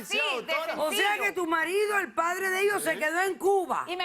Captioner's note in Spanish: Hablan al unísono